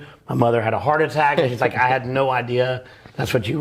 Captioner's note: warm laughter